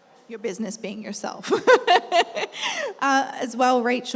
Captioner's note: laughs